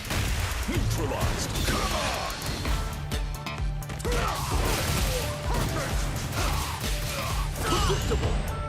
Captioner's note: fighting noises